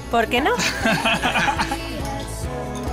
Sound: laugh

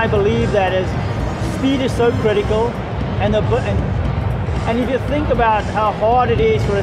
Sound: stutters

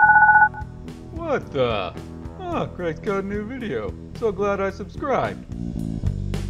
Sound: bell rings

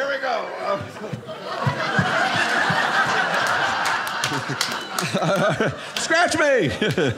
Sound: audience laughing

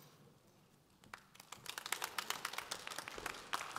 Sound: audience applause

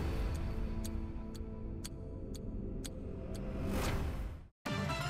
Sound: clock ticking; upbeat electronic music

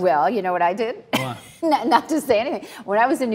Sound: Cynthia laughs

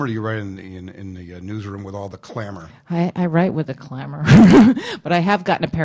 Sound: laughs

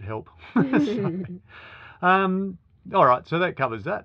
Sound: laughing

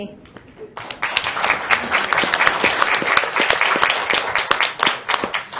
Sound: applauding

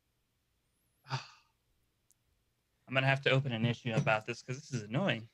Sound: sighing

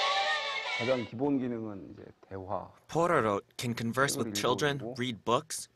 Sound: Korean

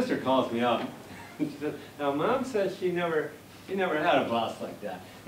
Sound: laughter

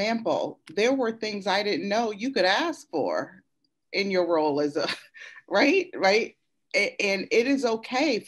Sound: laughs

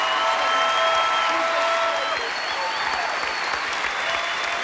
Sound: cheers and applause

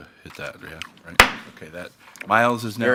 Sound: gavel thumping

